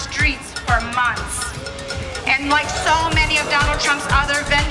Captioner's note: cheering